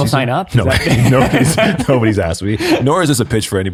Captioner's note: chuckling